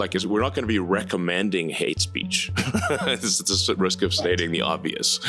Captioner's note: laughs